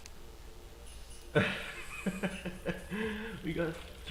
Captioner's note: wheezes